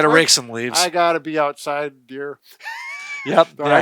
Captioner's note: laughs